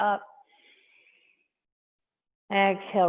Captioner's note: inhaling